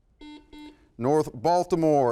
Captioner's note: buzzer